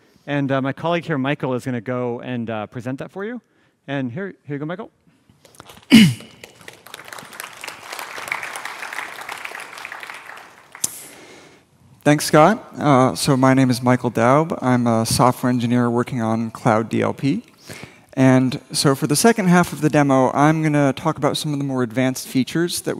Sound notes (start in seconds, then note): 5.8 clears throat; 5.9 applause